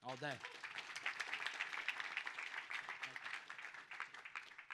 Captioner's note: audience applauds